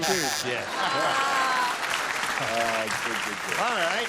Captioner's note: applause